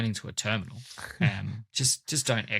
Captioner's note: laughs